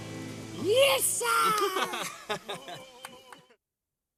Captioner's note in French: ils rient